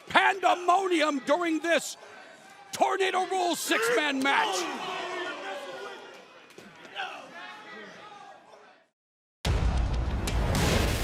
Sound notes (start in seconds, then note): 5.2 crowd chatter